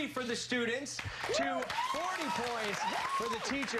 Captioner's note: cheers and applause